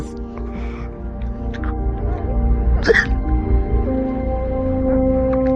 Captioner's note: sobbing